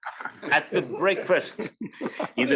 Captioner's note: laugh